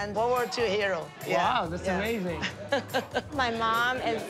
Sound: laughing

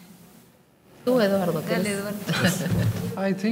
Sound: laughing; speaking in a foreign language

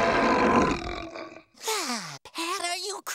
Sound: growling; sighing

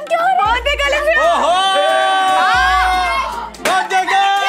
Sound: cheering

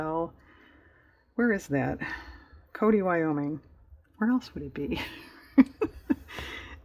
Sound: laughs

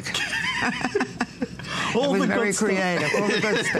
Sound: laughter

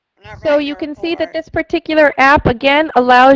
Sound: voiceover

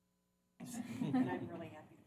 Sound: laughter

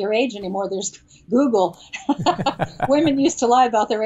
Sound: laughs

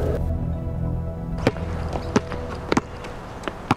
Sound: basketball bouncing

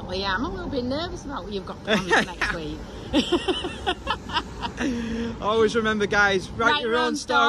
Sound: laughing

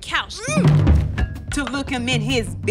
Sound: grunts

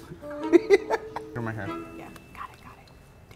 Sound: laughs

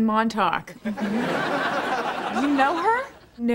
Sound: background laughter

